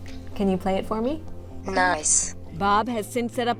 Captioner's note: automated Female Voice